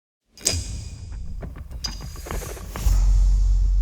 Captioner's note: percussive sound